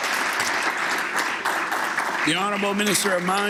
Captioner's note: applause